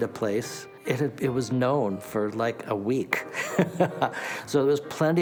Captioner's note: laughing